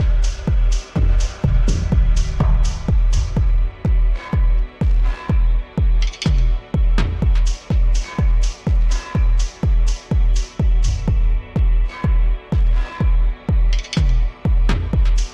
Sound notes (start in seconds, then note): none